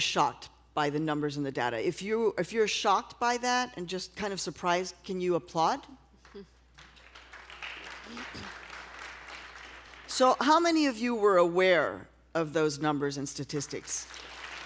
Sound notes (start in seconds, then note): 6.7 applause